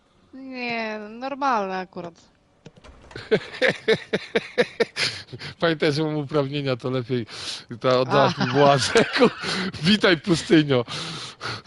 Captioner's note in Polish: śmiech